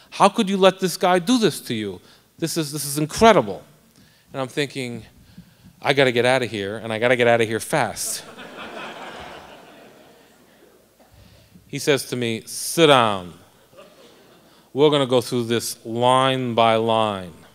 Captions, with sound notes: HOW COULD YOU LET THIS GUY DO THIS TO YOU. THIS IS INCREDIBLE. AND I'M THINKING I'VE GOT TO GET OUT OF HERE AND I'VE GOT TO GET OUT OF HERE FAST. [ LAUGHTER ] HE SAYS TO ME, SIT DOWN, WE'RE GOING TO GO THROUGH THIS LINE BY LINE.